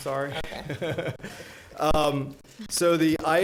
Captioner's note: chuckling